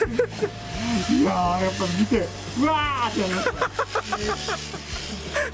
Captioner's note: laughs